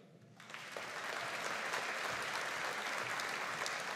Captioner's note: audience applauding